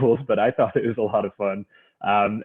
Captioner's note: chuckles